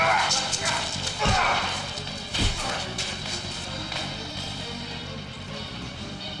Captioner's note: men grunting; fists smashing